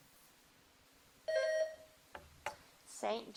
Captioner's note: bell dings